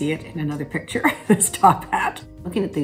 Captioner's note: Catharine laughs